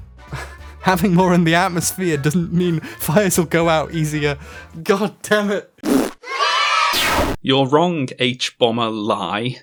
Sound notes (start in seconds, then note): 0.1 snickering; 5.8 raspberry-fart